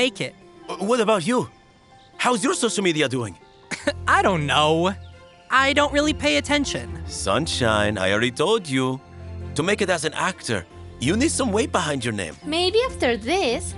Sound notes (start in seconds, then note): 3.7 chuckles